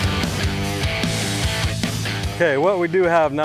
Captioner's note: airboat motor stops